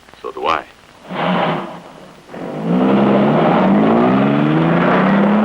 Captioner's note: engine rumbles